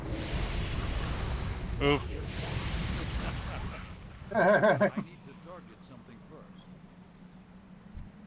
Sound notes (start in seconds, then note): 4.2 laughter